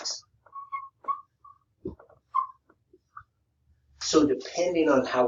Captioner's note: marker squeaking